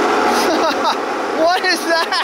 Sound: laughs

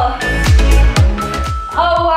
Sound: timer beeping

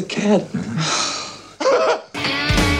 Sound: laugh; light rock music

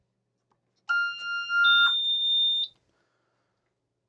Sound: electronic beeps

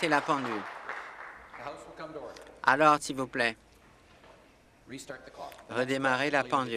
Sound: applause

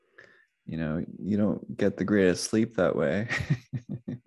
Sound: laughs

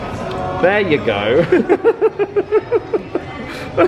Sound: laughs

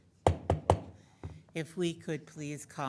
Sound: gavel thudding

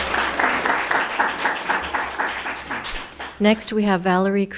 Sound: audience applauding

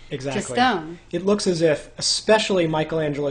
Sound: voiceover

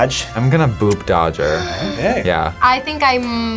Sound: gasps

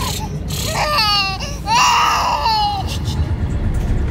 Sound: baby cries

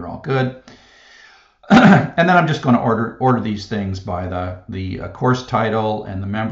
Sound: cough

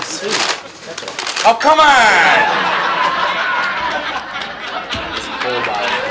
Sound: audience laughs

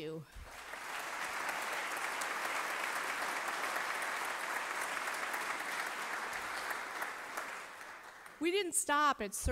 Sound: applause

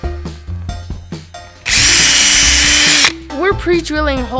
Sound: loud drilling

